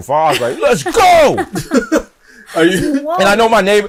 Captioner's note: mero and julia chuckle